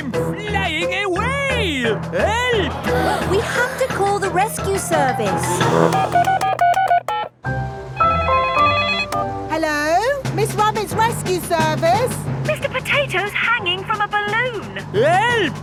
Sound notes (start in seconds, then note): 5.6 beeping; 8.2 phone ringing